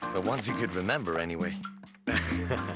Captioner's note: chuckling